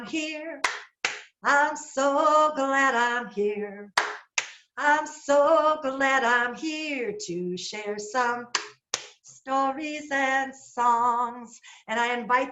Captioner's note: clap clap